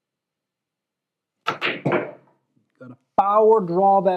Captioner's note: balls clacking